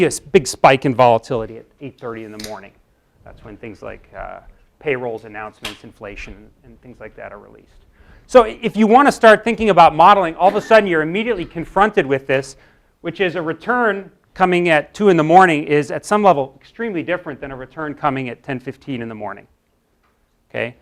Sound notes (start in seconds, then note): 10.4 cough